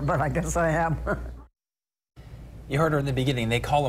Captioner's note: laughs